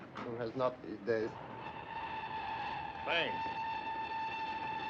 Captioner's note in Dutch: treinfluit blaast